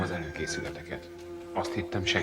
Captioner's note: rooster crows